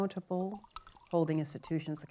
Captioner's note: pours water in the background